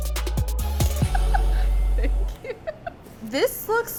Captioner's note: cheerful music; laughs